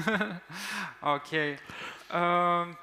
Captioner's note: chuckles